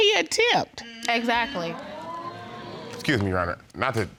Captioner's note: audience exclaiming